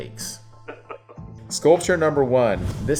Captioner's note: chuckles